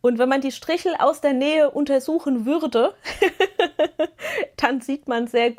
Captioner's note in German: gelächter